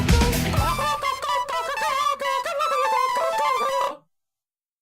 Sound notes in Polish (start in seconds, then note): 0.5 Okrzyki godowe indora